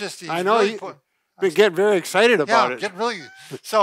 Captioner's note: laughs